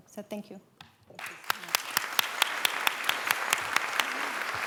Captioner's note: applause